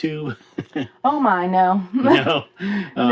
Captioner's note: laughing